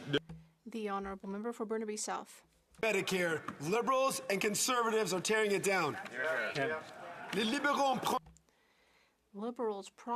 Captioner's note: some Applause